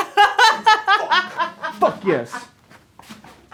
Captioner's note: group laughing